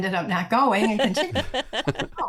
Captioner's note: laughing